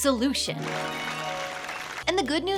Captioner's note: bright music; audience applauding